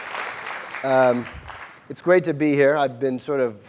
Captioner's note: applause